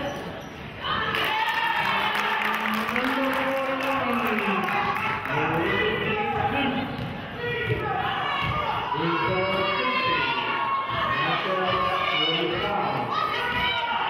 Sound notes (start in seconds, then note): 1.0 cheering and clapping